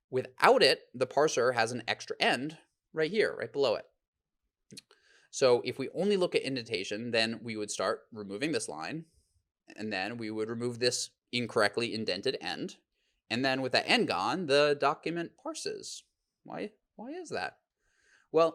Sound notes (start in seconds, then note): none